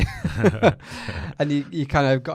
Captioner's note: laughing